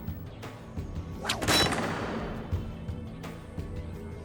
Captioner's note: metal clinks